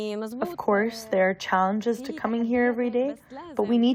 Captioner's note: through translator